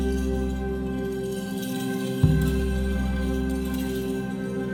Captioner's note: jingles clinking